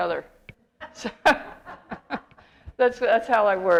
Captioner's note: laughter